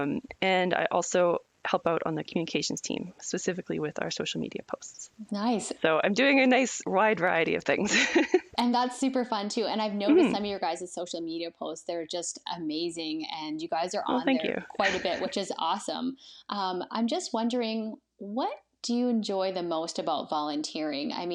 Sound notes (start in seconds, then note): 8.3 laughs